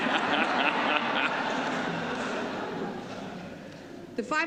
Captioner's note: laughter